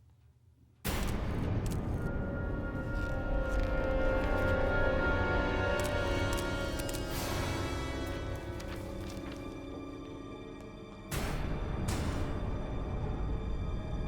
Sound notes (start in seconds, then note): 1.0 camera clicking; 1.0 sharp climactic music; 6.2 camera clicking; 9.6 eerie tense music